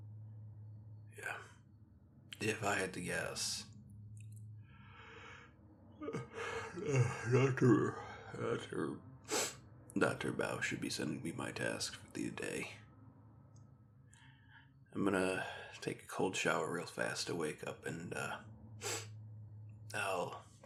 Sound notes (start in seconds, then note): 6.0 yawn; 18.8 sniffle